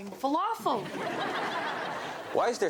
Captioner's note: audience laughs